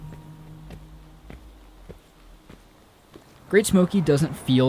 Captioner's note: footsteps thumping